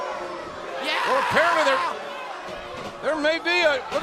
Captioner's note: crowd chatter